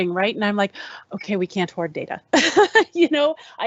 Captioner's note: laughs